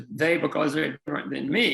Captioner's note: faintly speaking